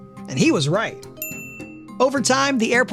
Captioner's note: wink chiming